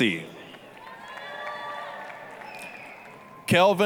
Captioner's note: applause, cheering